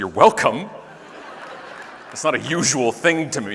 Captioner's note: audience laughing